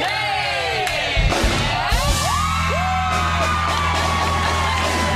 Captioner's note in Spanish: aplausos